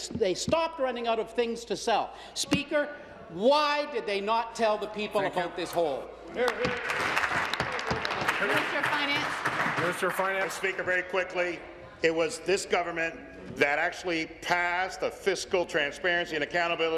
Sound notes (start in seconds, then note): 9.7 applause